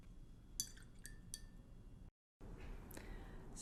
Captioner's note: paintbrush clinks in water glass